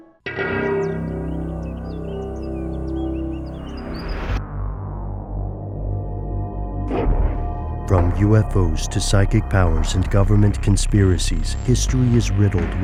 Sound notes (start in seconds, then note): 0.3 ominous music; 8.1 voiceover